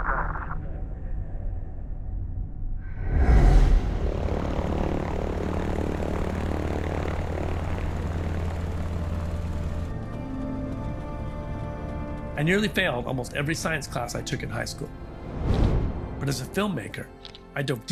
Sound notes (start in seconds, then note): 5.2 propellers humming